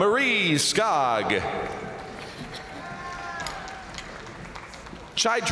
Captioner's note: crowd cheering; crowd applauding